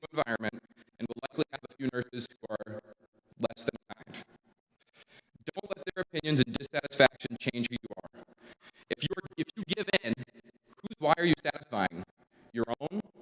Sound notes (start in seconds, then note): 4.3 audio cuts out